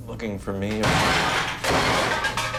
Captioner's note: loud bang